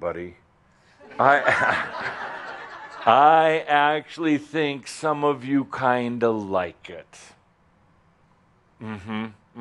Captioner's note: laughter as he blocks his eyes